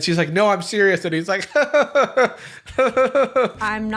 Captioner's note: awkward laugh